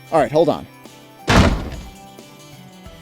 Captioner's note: slam